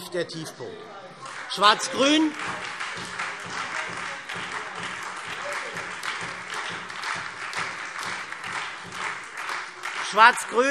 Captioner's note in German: Beifall SPD und Freie Demokraten